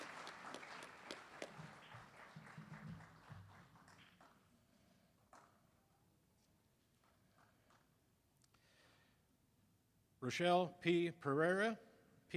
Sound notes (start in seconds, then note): 0.0 applause